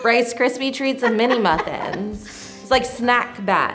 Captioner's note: laughs